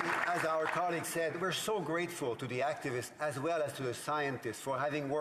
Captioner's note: applause